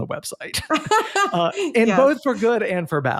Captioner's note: laughing